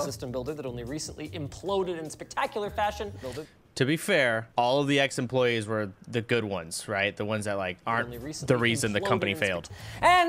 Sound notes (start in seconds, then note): none